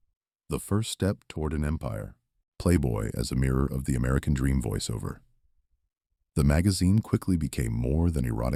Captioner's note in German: Voiceover